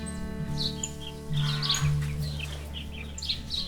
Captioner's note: cockerel crows; birds sing